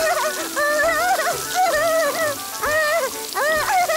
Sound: giggles

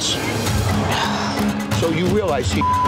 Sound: sighs; beep

